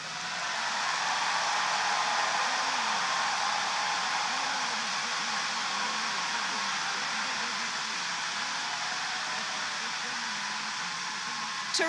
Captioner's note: applause